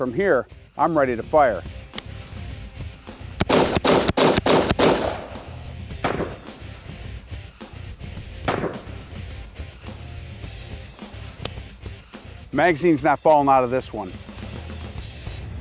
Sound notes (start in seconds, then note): 3.4 gun shots ring out